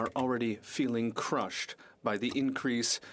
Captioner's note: speaking FRENCH